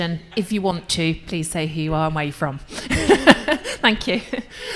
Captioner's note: laughs